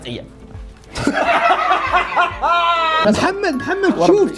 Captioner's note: laughs hysterically